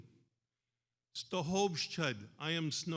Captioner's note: speaks in foreign language